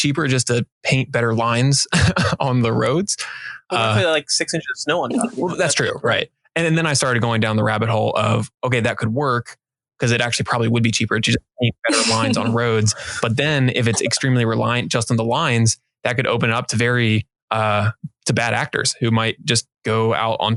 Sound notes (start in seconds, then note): 1.8 chuckling; 13.7 laughing